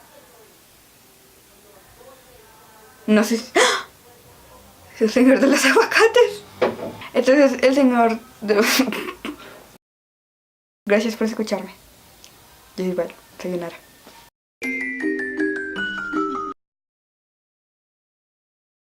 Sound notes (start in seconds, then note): 7.0 laughs and unintelligible things